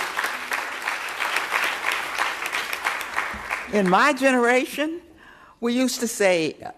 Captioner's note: applause